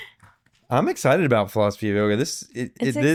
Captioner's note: laughing